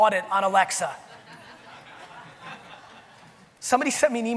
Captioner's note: audience laughing